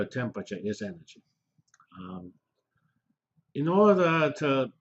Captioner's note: pause